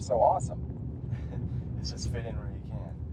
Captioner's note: chuckles